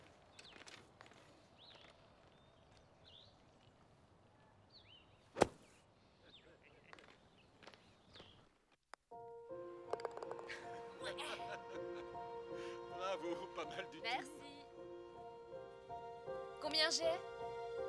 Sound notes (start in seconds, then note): 5.4 thudding; 6.0 muffled laughter and moans; 11.0 laughing